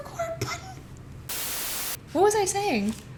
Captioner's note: static